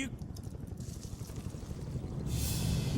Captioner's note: sound of inbound choppers